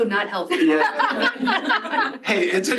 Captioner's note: laughter